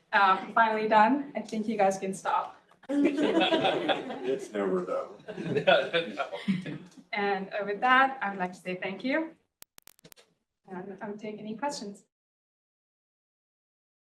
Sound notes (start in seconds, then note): 2.9 audience laughs; 6.4 laughing